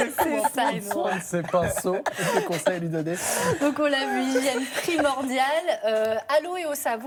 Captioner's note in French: rires